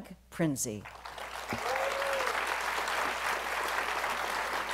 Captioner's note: applause